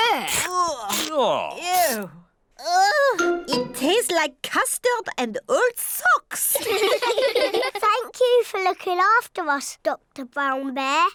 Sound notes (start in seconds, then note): 6.6 all laugh